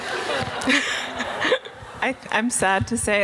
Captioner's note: audience laughing